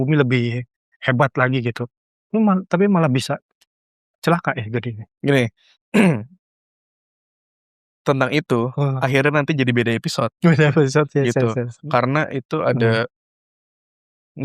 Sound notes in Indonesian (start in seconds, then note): 5.9 berdehem